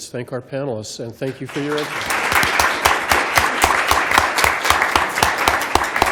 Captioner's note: applause